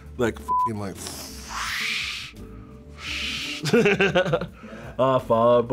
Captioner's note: laughs; imitates air whooshing